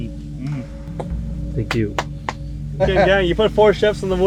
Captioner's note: hunter clapping